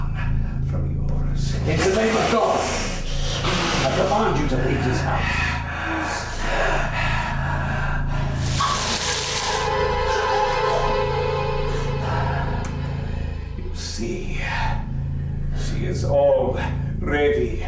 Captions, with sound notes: from yours. - In the name of God, I demand you to leave this house. (Dracula growls) (eerie music) - You see she is all ready mine.